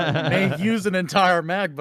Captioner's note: laughing